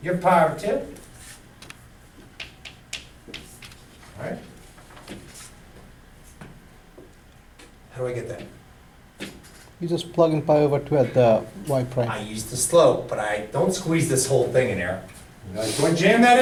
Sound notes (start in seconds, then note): 2.3 chalk clicking on board; 10.4 voiceover